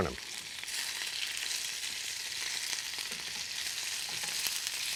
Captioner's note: sizzling